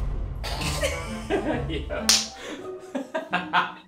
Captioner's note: laughing